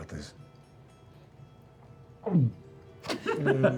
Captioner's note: swallows